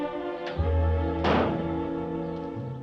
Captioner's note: car hood slams